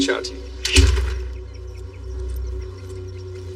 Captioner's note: birdsong